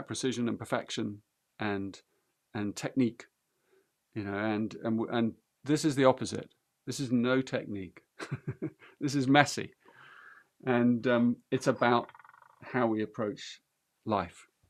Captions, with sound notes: precision and perfection and technique. You know, and this is the opposite. This is no technique, [laughs] this is messy. And it's about how we approach life.